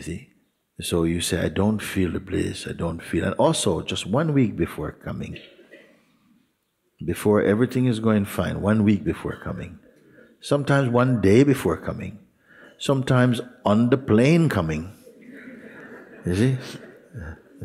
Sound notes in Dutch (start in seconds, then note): 15.0 gelach